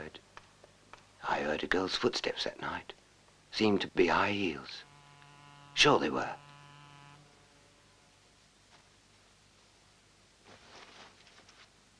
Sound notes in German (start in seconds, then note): 5.7 Schritte